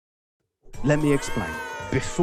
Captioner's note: audience boos